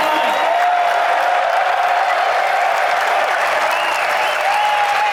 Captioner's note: crowd cheering and clapping